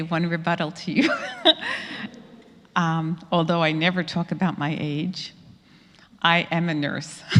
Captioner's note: laugh